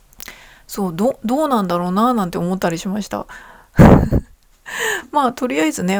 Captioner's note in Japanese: 笑い